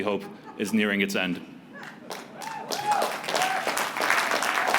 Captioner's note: applause